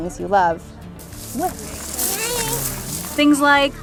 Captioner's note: leaves rustling; people chattering